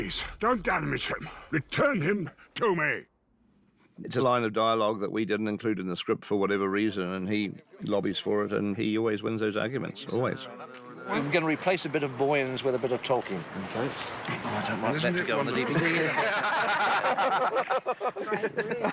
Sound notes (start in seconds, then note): 15.4 all laughing